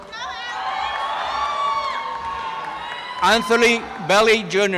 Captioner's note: applause and cheering